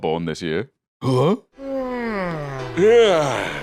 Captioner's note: yawns